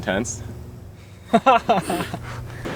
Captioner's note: laughing